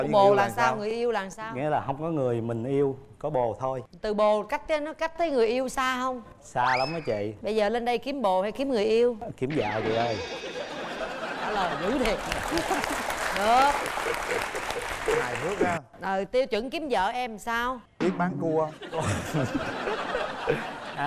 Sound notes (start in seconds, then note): 10.5 laughing; 11.8 applause; 18.8 laughing